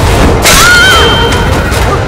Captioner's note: Ruchi screams